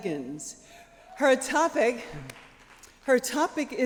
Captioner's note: cheers